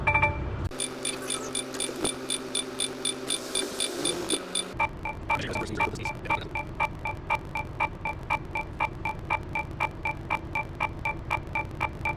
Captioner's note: beeping